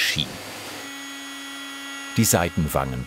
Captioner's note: high hum